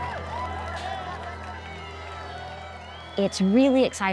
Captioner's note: crowd cheering and clapping